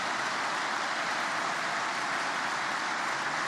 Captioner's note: applause